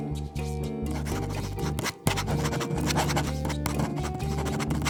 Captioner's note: pen scribbling